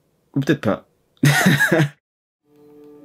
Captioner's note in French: rires